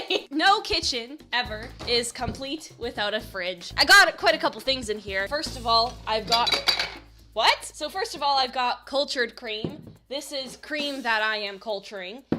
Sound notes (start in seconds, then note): 6.1 jars clanking